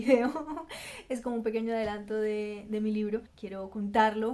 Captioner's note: in Spanish